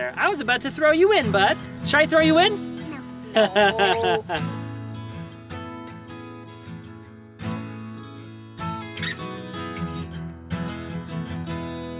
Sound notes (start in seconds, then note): 3.2 laughing; 5.0 light guitar music